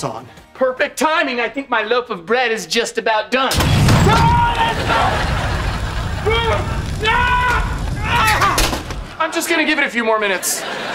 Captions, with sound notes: Perfect timing, I think my loaf of bread is just about done. [screaming] I'm just going to give it a few more minutes.